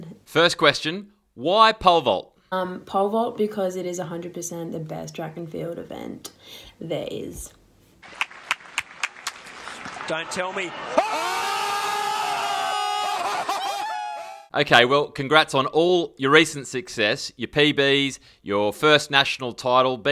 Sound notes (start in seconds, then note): 8.1 clapping; 12.2 crowd cheering